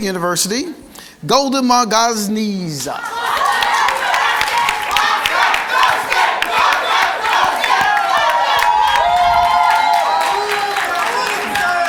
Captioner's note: cheers and Applause